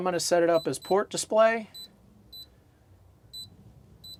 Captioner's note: beeping